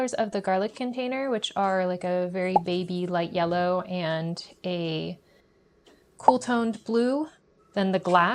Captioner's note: popping sfx